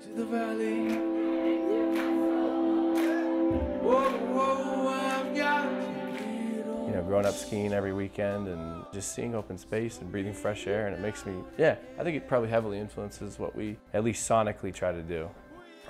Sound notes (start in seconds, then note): 0.4 rhythmic clapping; 2.2 crowd